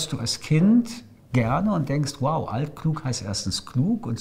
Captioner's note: in German